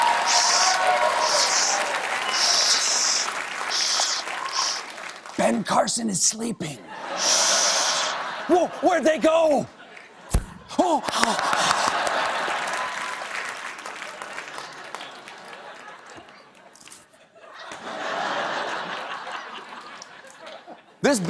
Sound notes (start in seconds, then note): 11.0 applause; 11.2 laughter